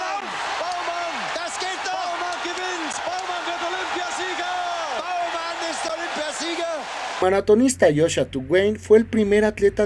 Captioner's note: applause